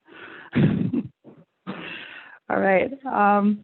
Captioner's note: laughs